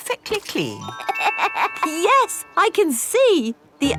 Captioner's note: laughs